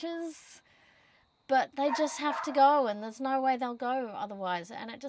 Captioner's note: woof, ruff; ruff-ruff